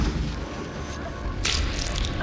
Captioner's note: splatter